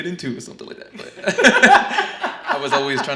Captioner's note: laughs